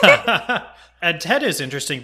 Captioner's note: laugh